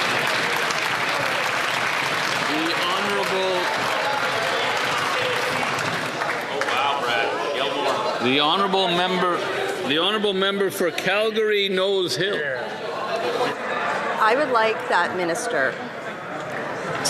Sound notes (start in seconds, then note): 5.8 some Applause